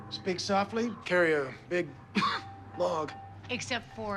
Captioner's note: coughs